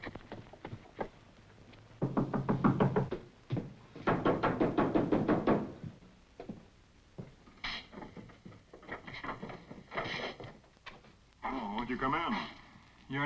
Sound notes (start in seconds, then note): 2.0 knocks